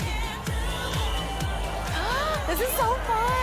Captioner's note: crowd cheers